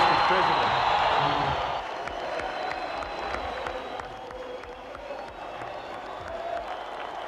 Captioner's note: applause; singing